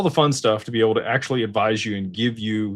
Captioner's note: none